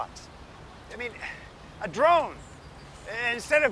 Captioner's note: sighs